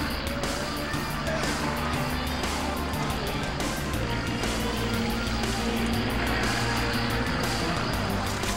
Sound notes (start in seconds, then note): 0.0 car engines humming; 0.0 thrilling music